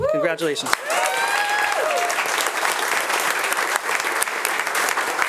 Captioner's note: attendees applauding